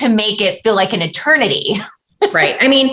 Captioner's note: laughter